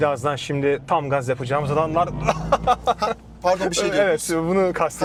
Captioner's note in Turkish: kahkaha